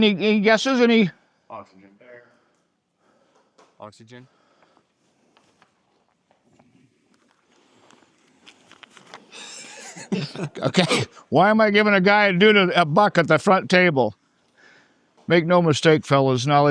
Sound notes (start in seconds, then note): 9.3 laughing